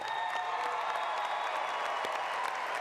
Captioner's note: applause